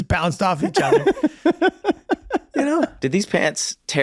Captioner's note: laughing